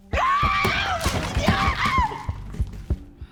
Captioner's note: screams